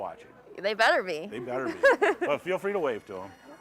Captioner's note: laughing